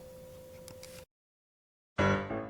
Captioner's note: camera clicks; bright cheerful piano music